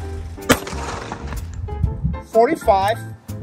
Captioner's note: pistol fires